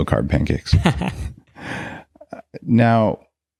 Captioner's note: laughs